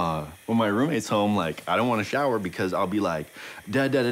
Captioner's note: blathers rhythmically